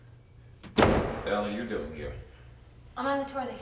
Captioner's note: door slams